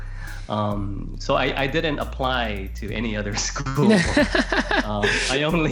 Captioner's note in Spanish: Risas